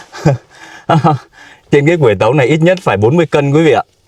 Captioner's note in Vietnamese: tiếng cười